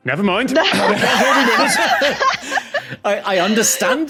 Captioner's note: others laugh uproariously